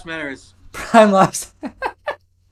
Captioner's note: laughs